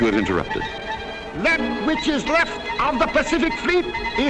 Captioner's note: voiceover